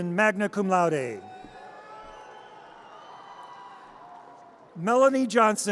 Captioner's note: audience cheers